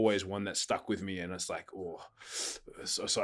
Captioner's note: exhaling